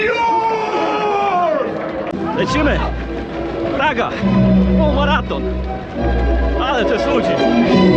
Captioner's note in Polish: krzyk